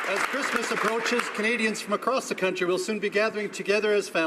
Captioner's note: some Applause